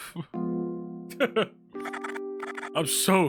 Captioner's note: Skull laughs